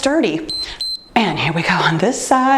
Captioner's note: timer beeps